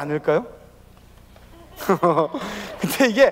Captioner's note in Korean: 웃음